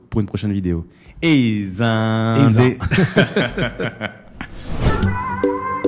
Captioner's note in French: rires